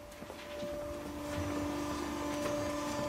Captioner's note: loud machine whirring